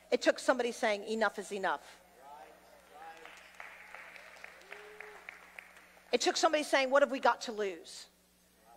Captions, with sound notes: It took somebody saying enough is enough. (audience applauding) It took somebody saying, what have we got to lose?